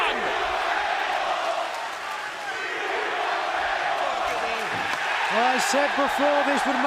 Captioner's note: crowd cheering